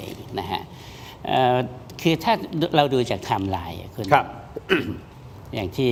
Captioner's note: clears throat